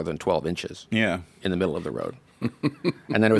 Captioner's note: laughs